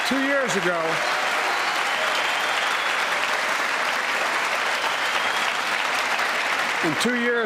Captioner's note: cheers and applause